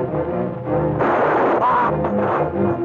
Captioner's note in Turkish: Tüfek sesi